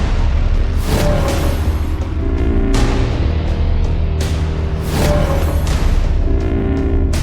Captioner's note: thrilling music continues; space whooshes